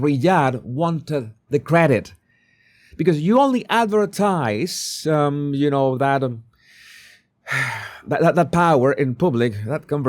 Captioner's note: gasps and sighs